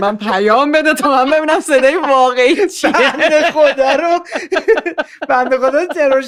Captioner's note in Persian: خنده